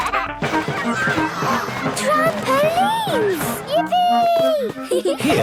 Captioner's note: George giggles; gasps; giggling